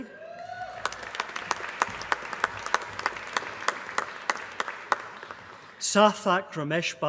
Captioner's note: applause